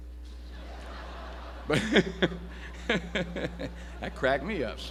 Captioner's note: audience laughs